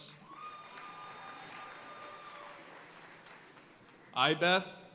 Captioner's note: audience cheering and applauding